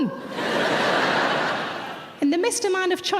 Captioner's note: audience laughs